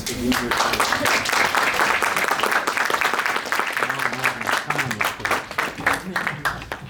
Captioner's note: applause